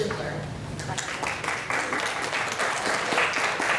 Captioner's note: applause